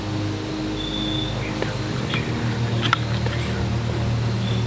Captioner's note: whispering